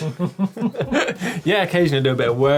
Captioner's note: laughing